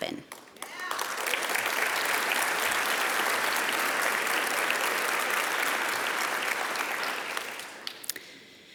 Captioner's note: applause